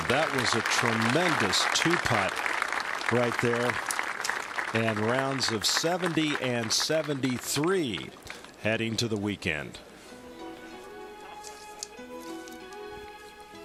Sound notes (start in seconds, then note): 4.6 applause